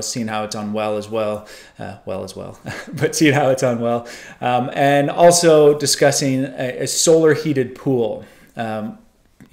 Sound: laughter

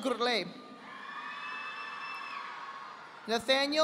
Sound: audience applauding

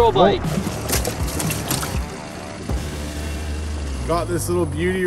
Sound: fish flapping

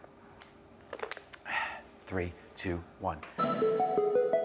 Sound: exhales

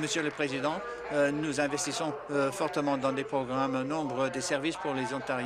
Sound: applause

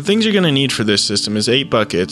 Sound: voiceover

